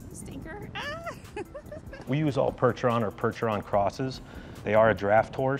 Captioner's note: speaker laughing